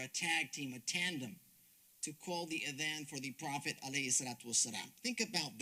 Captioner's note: speaks Arabic